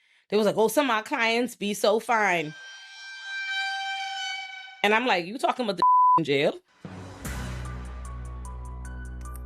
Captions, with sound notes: They was like, "Oh, some of our clients be so fine." (siren blaring) And I'm like, "You talking about the (beep) in jail?" (dramatic music)